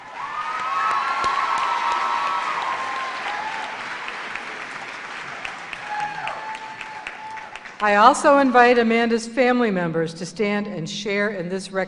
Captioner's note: cheers and applause